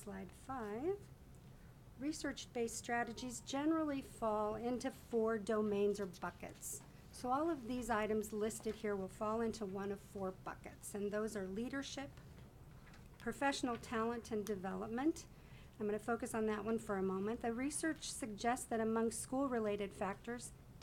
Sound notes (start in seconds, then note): none